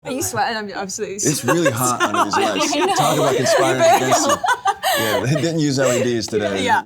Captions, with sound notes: Are you sweating? I'm sweating. It's really hot under these lights. (laughs) It's so hot. Talk about conspiring against you. Yeah, they didn't use LEDs today.